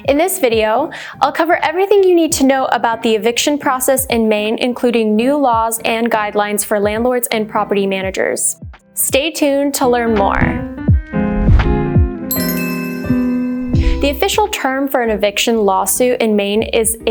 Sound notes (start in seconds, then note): 10.9 relaxing music plays; 12.3 sparkling chime plays